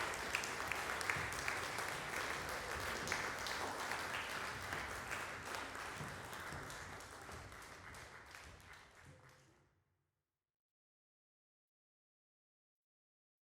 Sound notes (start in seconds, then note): 1.7 applause fades; 8.9 silence